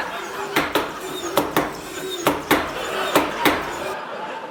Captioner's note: chopping sounds; laughter